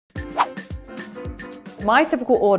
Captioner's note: upbeat corny music; whoosh